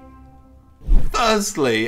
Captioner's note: sliding sound